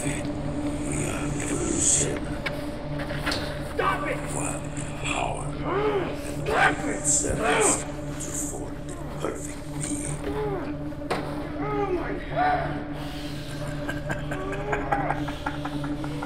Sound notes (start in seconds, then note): 3.3 man speaking in foreign language